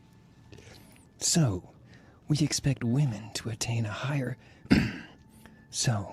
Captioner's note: clears throat